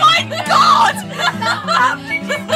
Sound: laughs

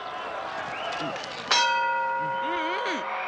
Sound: bell rings

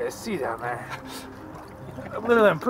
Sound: guys laugh

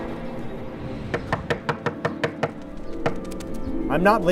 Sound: knock on door

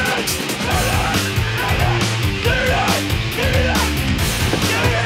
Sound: screaming

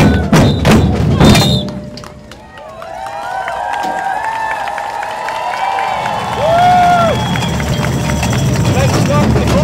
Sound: applause + CHEERING

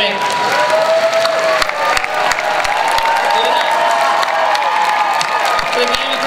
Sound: cheering, applause

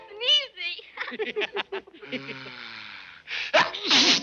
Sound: laughing

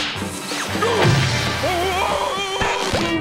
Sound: groaning, whimpering

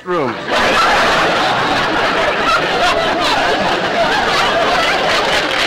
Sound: audience laughter

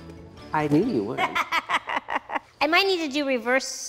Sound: laughing

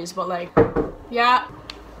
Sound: knock on the door

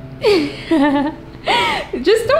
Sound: laughs

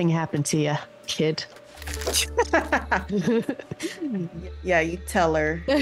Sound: laugh; laugh

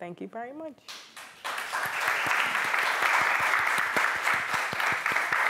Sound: applause

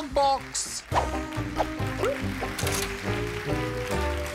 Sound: applause

